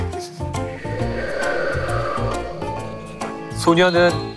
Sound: A sound effect of wind

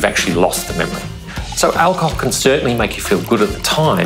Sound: liquid pouring

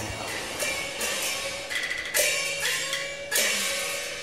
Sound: bells chime

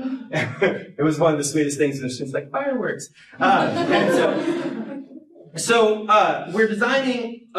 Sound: laughter

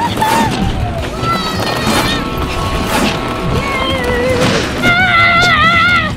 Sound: children screaming; air whooshing; screaming

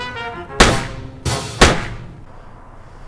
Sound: gunshot

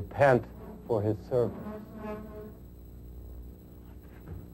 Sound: chair screeching in the background

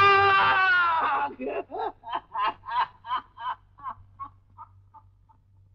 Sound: laughs

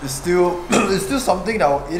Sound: burp

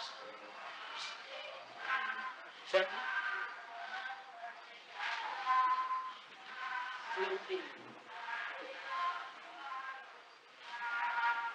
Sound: Hindi

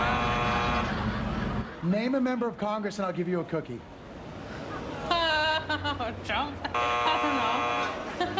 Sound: buzzer

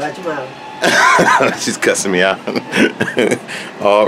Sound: laughs

